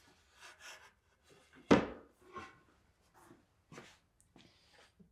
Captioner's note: wood bangs